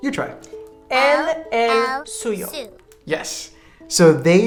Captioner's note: speaking in a foreign language